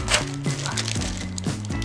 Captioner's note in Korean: 테입 붙이는 소리